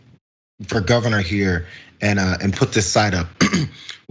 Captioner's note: cough